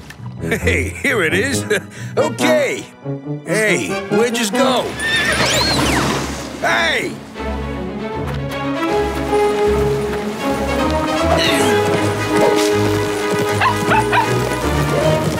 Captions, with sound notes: Hey, here it is. Okay. Hey, where did you just go? [neighing] Hey! [grunting] [barking]